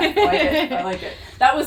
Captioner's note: laughs